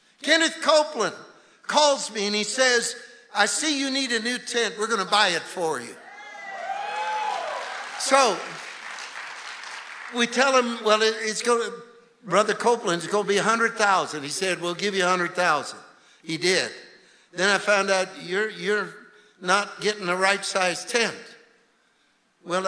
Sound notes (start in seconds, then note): 5.9 congregation cheering and clapping